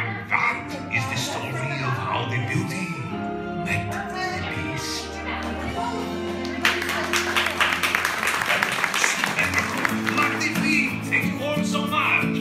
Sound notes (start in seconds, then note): 6.4 clapping